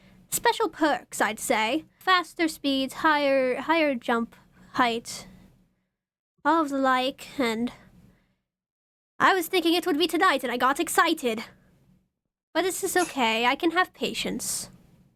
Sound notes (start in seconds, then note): none